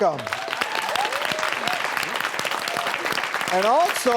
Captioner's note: audience clapping